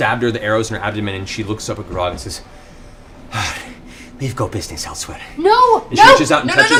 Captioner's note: sighs